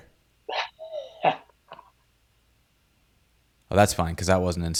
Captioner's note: laughs